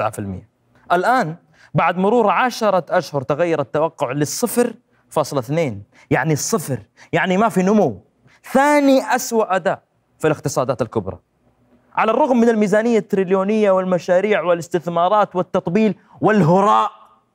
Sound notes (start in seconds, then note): none